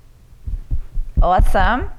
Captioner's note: fingers tapping